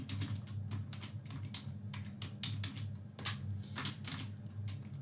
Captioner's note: keyboard clicks